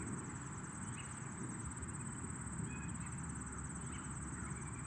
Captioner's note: birds continue twittering